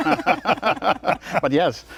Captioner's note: laughter